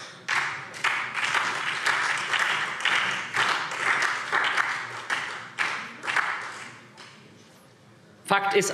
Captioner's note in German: Beifall SPD